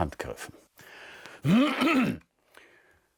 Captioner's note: clearing throat